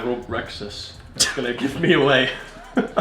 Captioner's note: laughs